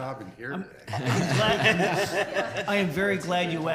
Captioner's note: everyone laughs